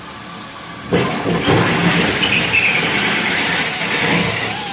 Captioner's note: drill whirs